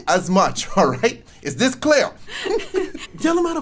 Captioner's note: laughs